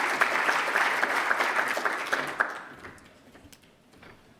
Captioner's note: applause